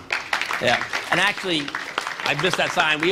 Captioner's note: applause